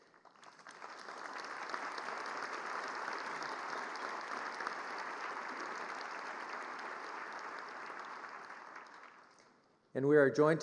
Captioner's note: applause